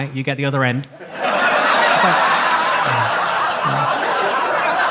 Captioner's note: audience laughs